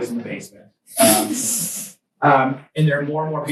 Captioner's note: students laugh